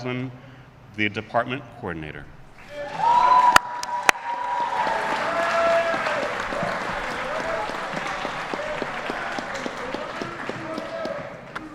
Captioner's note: applause